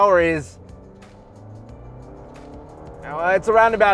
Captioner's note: car revving